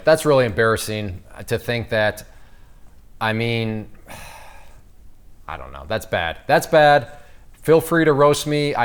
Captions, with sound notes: That's really embarrassing to think that, I mean, (sighs). I don't know, that's bad. That's bad. Feel free to roast me.